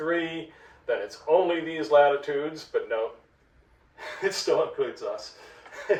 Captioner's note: happy laugh